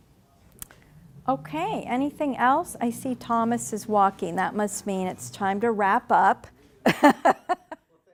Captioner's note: laughing